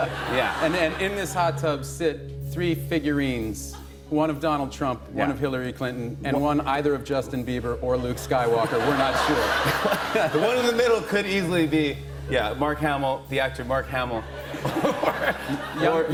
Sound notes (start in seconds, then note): 8.5 laughter